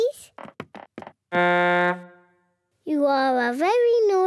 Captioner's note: blows horn